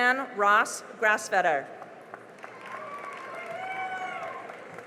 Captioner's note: cheering and applause